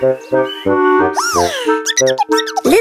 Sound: chirping

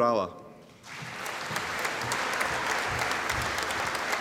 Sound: audience applauding

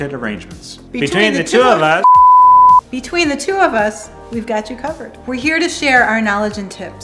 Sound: beep

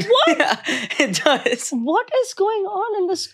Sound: laughing

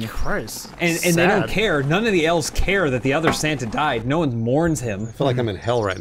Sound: bonk

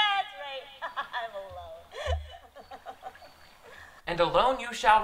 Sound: laughs

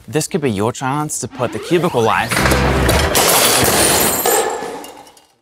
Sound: objects crashing

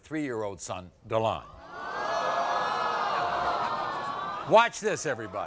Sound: crowd awwing

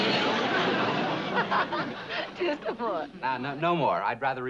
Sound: laughs

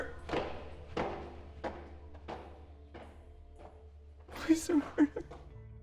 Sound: footsteps fading

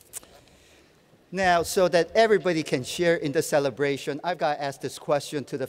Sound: none

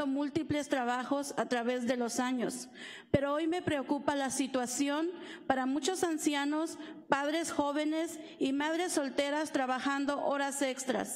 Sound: speaking spanish

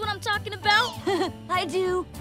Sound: chuckles

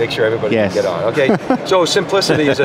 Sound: laughs

